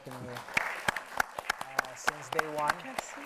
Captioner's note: audience applauds